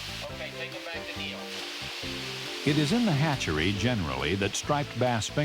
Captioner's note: voiceover